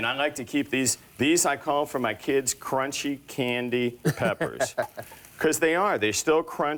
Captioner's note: laughs